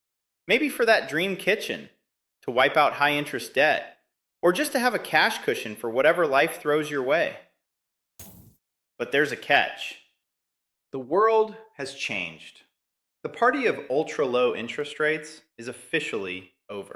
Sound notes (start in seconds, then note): 8.2 pause